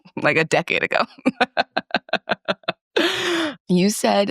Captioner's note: laughs